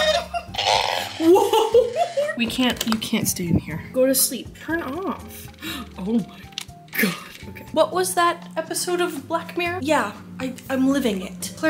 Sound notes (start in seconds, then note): 5.6 gasp